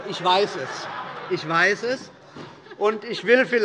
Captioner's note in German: Heiterkeit